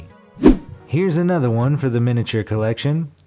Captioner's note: air whooshes